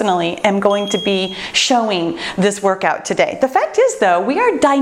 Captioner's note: bell chimes